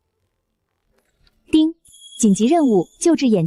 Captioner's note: ding!